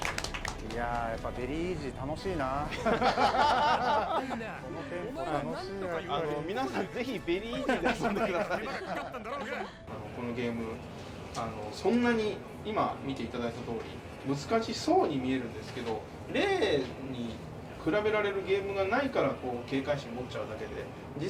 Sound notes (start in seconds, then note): 2.6 laughter